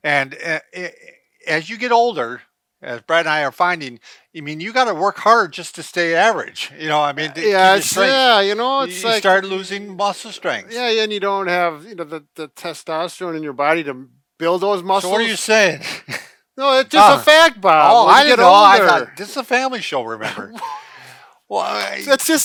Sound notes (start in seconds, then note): 16.8 laughing; 20.2 chuckling